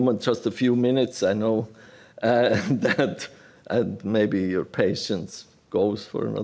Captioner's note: laughter